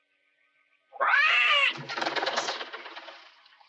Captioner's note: bird screeching